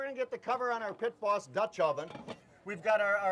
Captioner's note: lid clangs